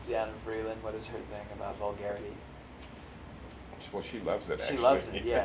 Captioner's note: laughs